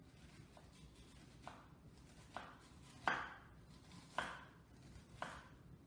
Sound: chopping

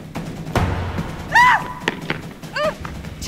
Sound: shriek

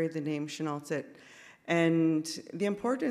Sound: speaks in Sk1wx1wu7mesh

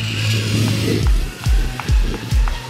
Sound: zip line purrs; upbeat music

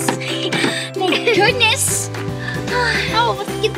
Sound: box clacks; giggles; sighs

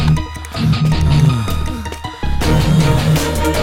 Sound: sighs

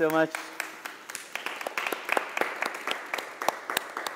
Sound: applause

